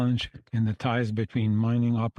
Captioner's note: speaking French